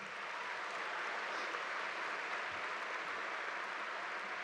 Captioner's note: audience applauding